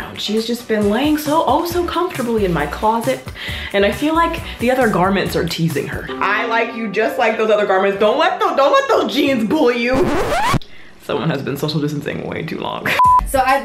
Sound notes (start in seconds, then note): 9.9 record scratches; 13.0 beeping